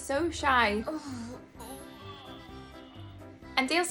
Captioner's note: groaning